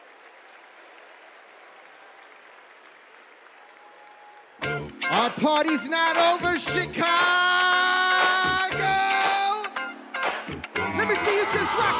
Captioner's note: applause